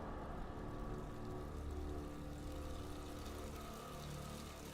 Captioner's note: water trickling